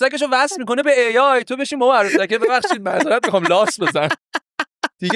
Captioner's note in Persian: خنده